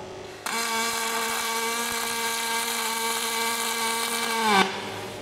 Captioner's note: welding machine sounding